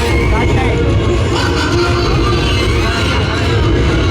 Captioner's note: evil laughter